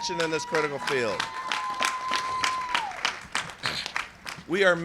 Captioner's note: cheers and applause